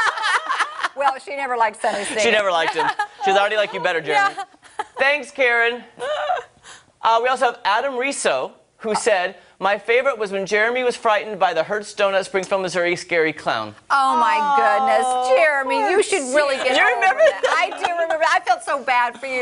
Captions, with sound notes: YOU ARE THE BEST SONNY I HAVE EVER WORKED WITH. CALLED ME AND SAID THE SAME THING. [LAUGHTER] THANKS, KAREN. AND ADAM SAID MY FAVORITE WAS WHEN JEREMY WAS FRIGHTENED